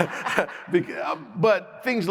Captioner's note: audience laughs